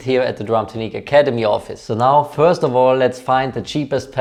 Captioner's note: none